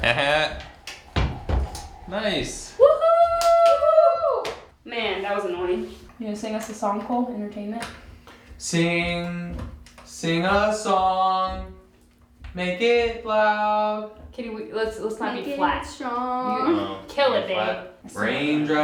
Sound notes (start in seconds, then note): 0.0 laughs; 2.4 cheering